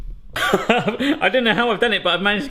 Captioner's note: laughing